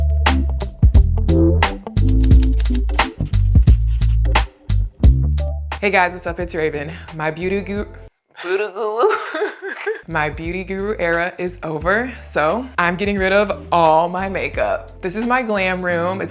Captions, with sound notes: (letters clicking) (letters scratching) - Hey, guys, what's up? It's Raven. My beauty gu... Booty goo. (chuckles) My beauty guru era is over, so I'm getting rid of all my makeup. This is my glam room.